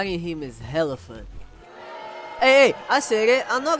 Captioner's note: crowd booing